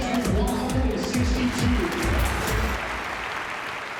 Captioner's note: applause